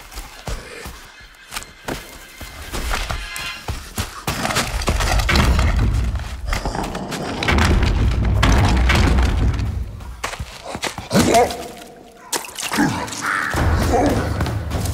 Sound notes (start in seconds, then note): 0.2 footsteps; 4.6 crashing; 10.6 grunting; 10.8 splashing